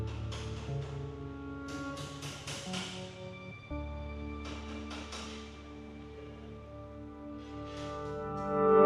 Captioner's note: hammering